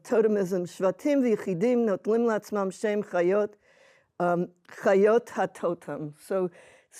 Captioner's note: speaking hebrew